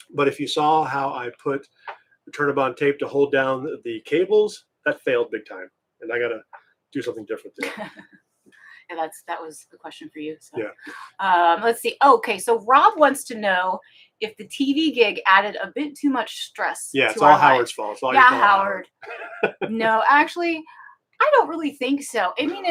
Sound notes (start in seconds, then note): 8.1 laughing